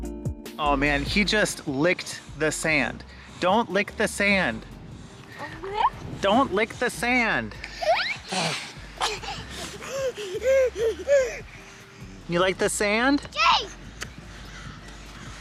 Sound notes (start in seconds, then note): 5.8 coos; 7.6 laughing